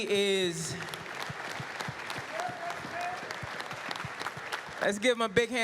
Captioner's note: applause